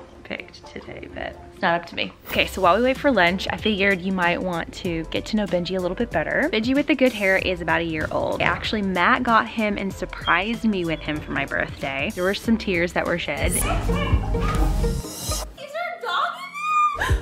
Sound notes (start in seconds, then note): 13.6 puppy barking